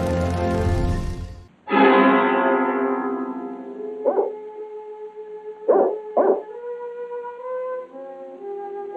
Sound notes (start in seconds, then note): 1.7 suspenseful music; 4.0 dog barking